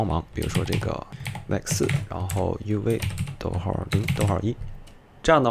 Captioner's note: typing